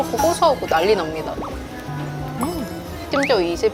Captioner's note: nom nom